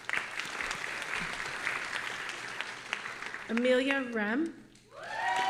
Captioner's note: audience applauding